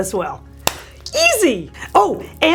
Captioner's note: claps